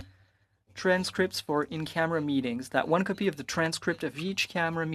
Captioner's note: speaking French